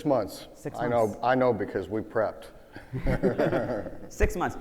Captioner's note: laughs